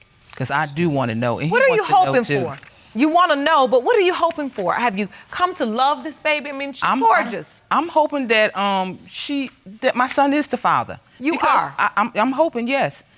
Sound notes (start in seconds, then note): none